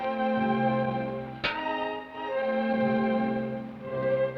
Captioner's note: pan clangs